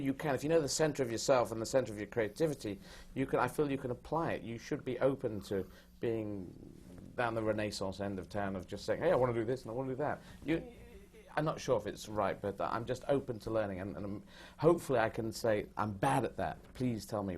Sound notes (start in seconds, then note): none